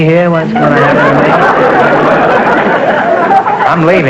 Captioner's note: audience laughter